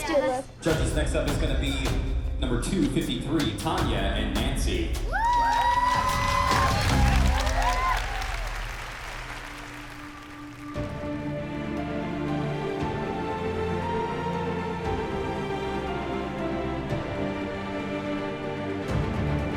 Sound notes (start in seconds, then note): 5.0 cheering, applause; 10.6 instrumental music playing